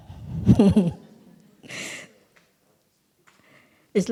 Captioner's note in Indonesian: Suara tertawa